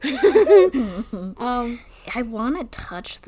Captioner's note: laughs